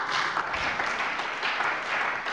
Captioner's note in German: Beifall bei der CDU und dem BÜNDNIS 90/DIE GRÜNEN